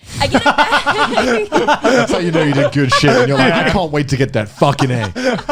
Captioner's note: laughing